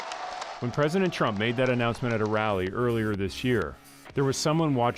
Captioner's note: applause